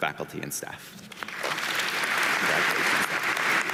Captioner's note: audience applauding